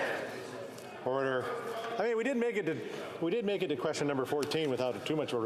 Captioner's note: yelling